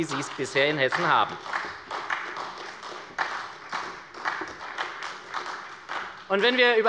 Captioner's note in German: Beifall bei der SPD